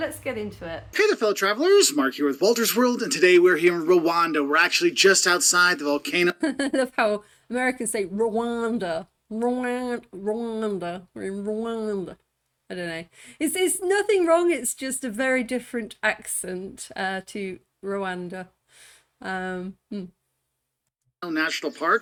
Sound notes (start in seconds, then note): 6.1 laughing